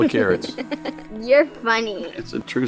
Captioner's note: laughs